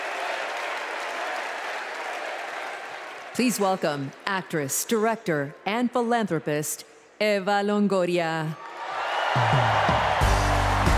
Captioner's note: cheers and applause